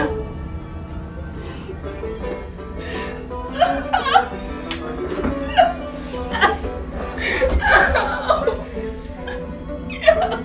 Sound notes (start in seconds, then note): 3.4 Lisa crying